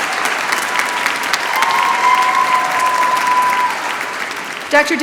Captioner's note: applause